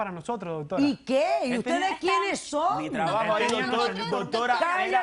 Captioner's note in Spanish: Hablan al unísono